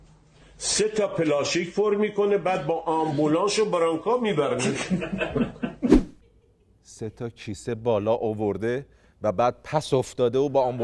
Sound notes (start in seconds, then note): 4.5 laughter